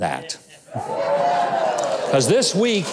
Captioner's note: audience cheering